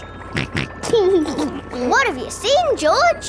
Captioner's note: snorts and laughs